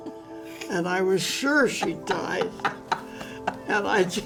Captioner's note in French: rires